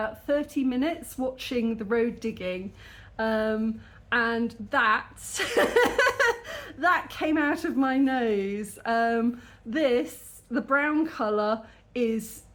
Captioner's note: laughing